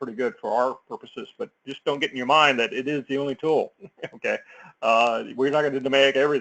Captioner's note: laugh